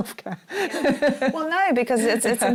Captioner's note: laughing